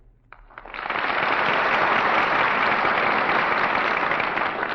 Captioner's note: audience applauding